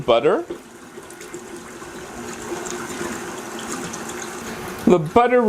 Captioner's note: mixing sounds